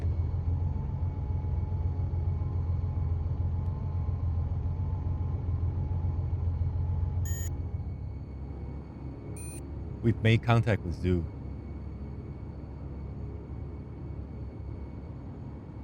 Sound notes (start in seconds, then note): 7.2 sunglasses beeps; 12.7 soft tense music